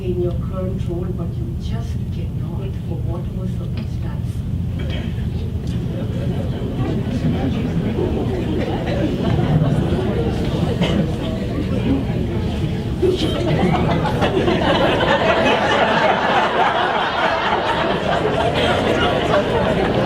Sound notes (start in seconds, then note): 6.3 audience murmuring; 13.5 audience laughing